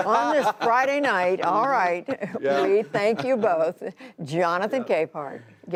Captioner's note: laughter